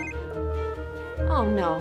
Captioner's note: phone rings